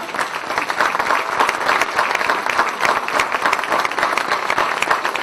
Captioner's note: applause